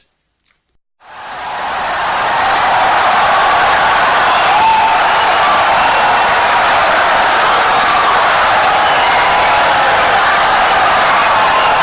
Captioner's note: wild applause and cheering for 17 seconds